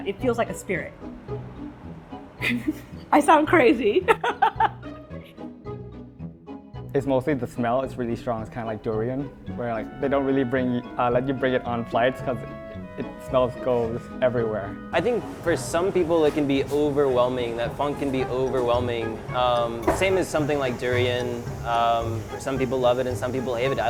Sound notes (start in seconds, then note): 4.0 laughs